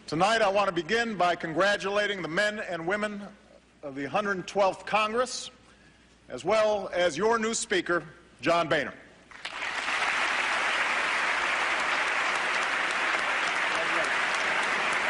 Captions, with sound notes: Tonight, I want to begin by congratulating the men and women of the 112th Congress, as well as your new speaker, John Boehner. [APPLAUSE]